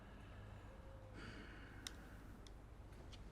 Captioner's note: sighs